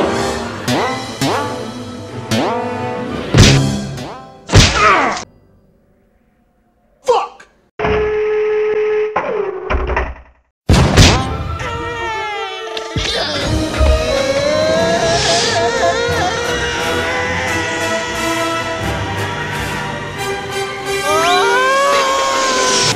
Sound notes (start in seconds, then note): 0.2 spring sounds; 3.3 impact; 7.6 cannon gearing up; 10.5 cannon sounds; 11.5 Pooh Yelling; 21.0 Pooh Screaming